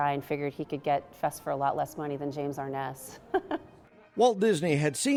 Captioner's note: laugh